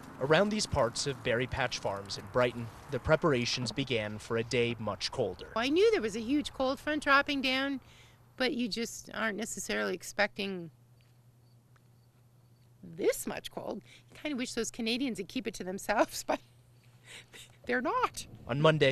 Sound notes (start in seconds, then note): 17.1 chuckles